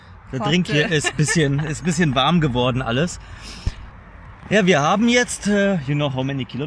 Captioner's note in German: gelächter